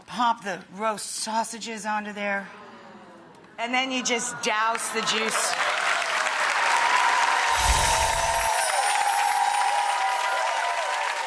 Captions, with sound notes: pop the roast sausages onto there and then you just douse the juice. (audience applauding)